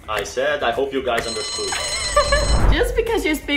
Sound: alarm rings

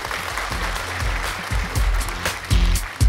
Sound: crowd applause; upbeat music

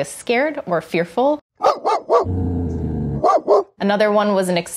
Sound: dog barking

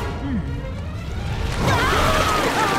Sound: screaming

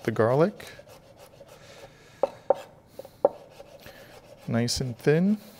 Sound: knife slicing

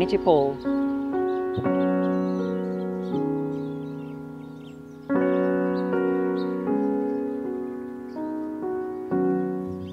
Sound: birds Chirping

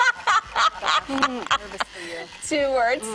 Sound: laughing

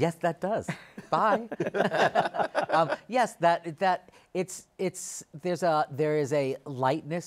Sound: laughs

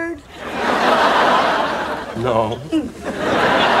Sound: audience laughing

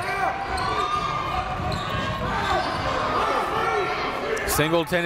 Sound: coaches yelling; crowd talking

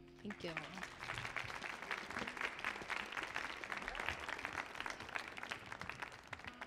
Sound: audience applauding

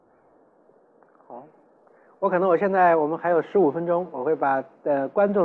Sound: Mandarin

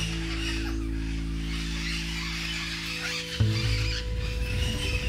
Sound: parrots squawking

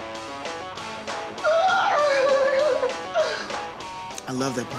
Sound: squealing

